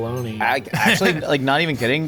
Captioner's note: chuckling